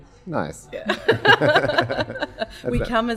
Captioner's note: laughing